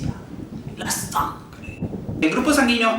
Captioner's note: storm